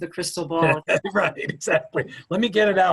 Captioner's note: laughing